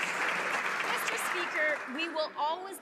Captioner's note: some Applause